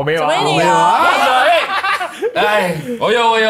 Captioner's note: laughs